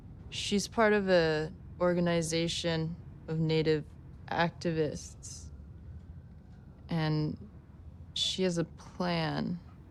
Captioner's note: none